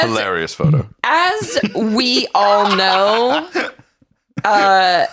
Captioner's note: laughs